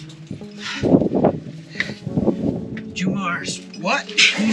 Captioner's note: wind blowing